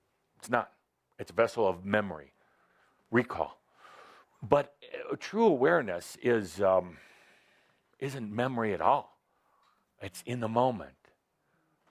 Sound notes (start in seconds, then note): none